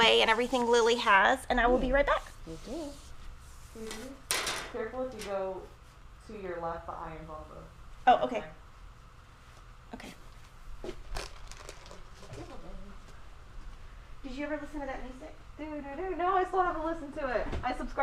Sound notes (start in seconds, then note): 4.2 speaking faintly; 11.1 container rattling